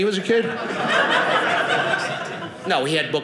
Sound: audience laughing

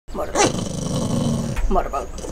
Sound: growling

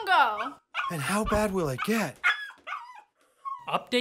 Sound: barking

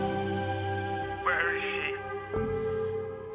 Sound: man's voice

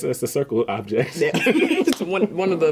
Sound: laughing

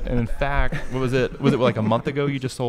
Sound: laughing

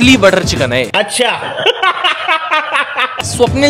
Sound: laughing

